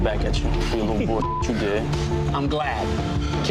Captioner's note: beep